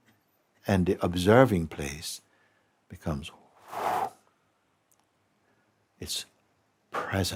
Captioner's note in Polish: wydycha głęboko